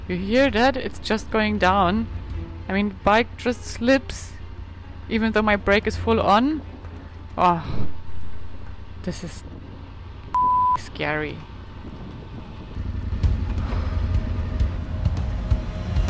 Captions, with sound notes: You hear that? It's just going down. I mean, the bike just slips, even though my brake is full on. Ah, this is (beep) scary. (dramatic music)